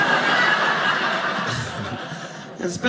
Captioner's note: audience laughing